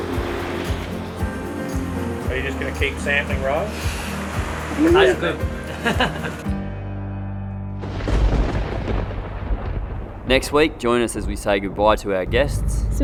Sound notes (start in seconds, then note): 4.8 chuckles; 7.9 thunder roars